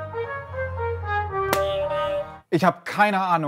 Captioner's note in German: Buzzer